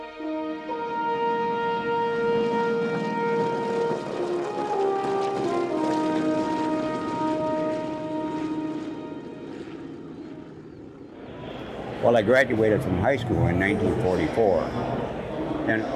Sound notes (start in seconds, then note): 0.3 triumphant music; 3.9 plane engine roaring